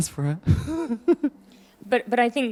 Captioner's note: laughing